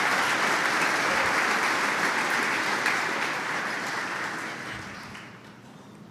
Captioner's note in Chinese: Applause; 鼓掌